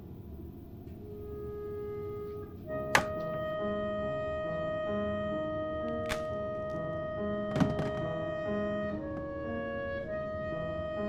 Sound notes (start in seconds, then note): 6.0 laptop snaps